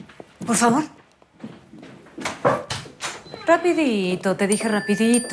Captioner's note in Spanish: Aviso de mensaje